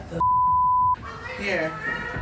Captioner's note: beep